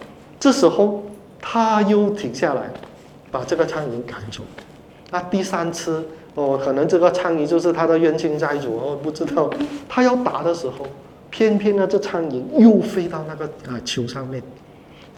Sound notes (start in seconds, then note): 9.0 laughter